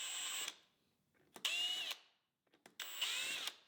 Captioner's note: drill whirring